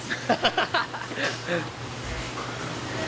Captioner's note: laughs